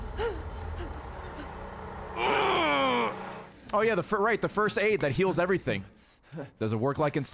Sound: cringes in pain

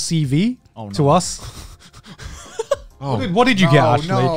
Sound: laughing

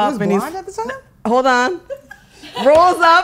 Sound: laughing

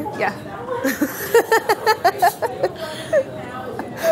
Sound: laughing

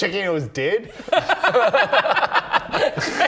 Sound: bless your heart laughter

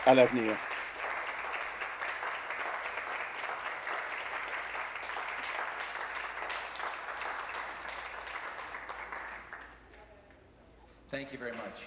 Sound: applause

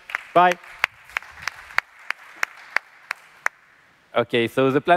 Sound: applause

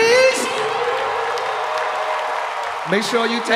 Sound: audience applause

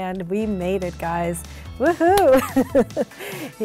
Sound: laughs

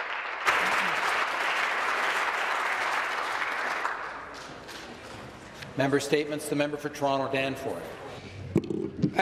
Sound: applause

